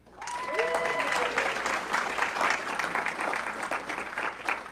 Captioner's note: audience cheering